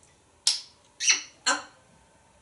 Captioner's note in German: smooch